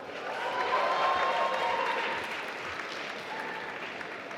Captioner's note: applause